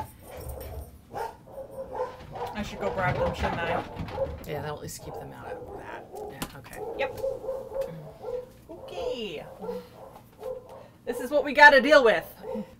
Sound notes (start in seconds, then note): 0.1 dogs barking; 3.4 dogs barking; 6.2 dogs barking; 12.2 dogs barking